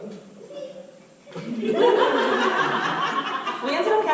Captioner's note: audience laughter